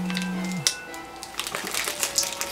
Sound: phone vibrates

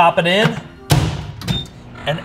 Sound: "Burger King machine" bangs; "Burger King machine" beeps and roars

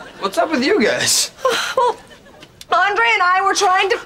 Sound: sighing

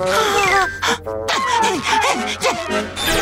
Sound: swooning; panting

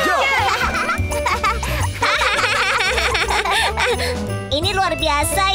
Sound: laughing

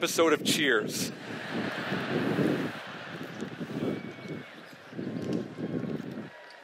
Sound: laughter

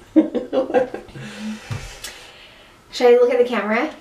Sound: laughs

